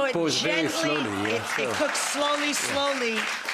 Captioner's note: audience applauds